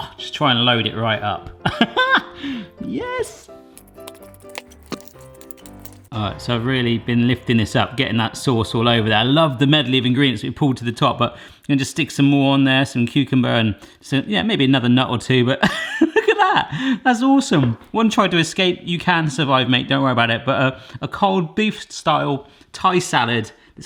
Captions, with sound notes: Aw, just try and load it right up, (laughing) yes. (fork clattering) So I've really been lifting this up, getting that sauce all over there. I love the medley of ingredients that we pulled to the top, but then just stick some more on there, some cucumber and maybe another nut or two. But (laughing) look at that, that's awesome. One tried to escape, you can survive mate don't worry about it, but a cold beef style thai salad.